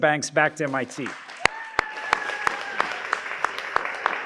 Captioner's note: applause